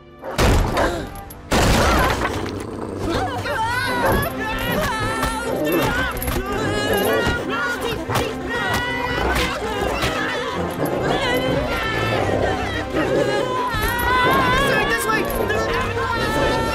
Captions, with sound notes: [barking and pounding resumes] -Aah! -[growling] [all screaming] [all screaming] This way!